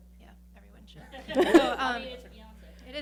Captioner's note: laughing